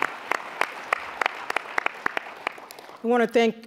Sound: applause

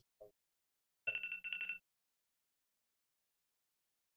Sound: watch beeping

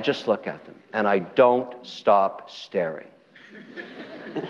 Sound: audience laughter

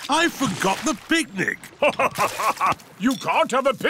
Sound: laughs

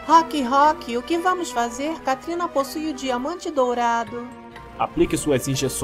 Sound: none

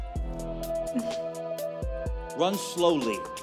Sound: laughs

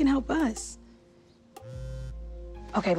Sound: cellphone vibrates

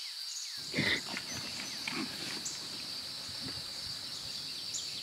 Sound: Sandra gasping

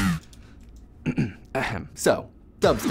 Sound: clears throat

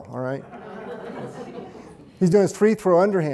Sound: audience chuckling

